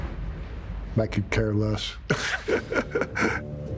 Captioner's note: laughing